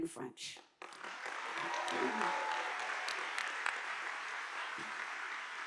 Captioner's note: audience applauding